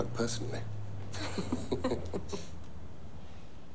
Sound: laughs

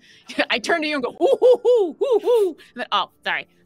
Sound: hooting

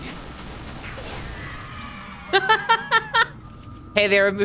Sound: children saying “yay” sound effect; laughing

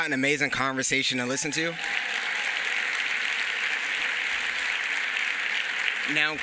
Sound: applause

